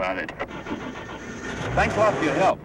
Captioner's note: engine revving